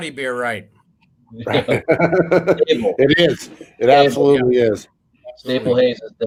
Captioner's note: laughing